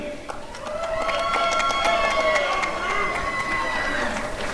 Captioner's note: applause and cheering